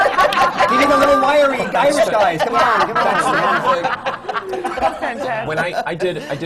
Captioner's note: laughter